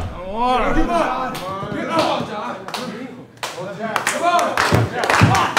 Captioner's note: audience cheering